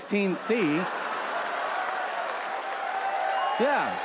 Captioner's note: audience laughs and applauds